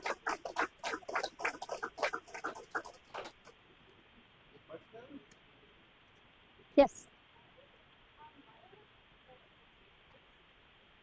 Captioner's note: applause